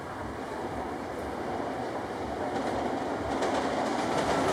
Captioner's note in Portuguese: barulho de trem; assobio suave